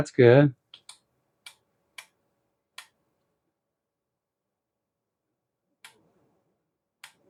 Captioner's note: clicking